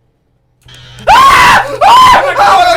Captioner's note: weird buzzing electrical noise; both screaming very loudly